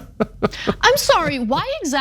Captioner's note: laugh